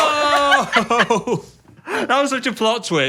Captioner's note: laughs